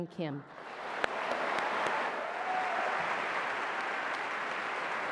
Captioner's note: audience applauds